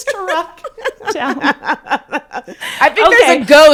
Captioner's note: laugh